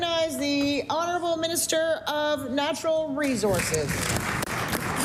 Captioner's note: applause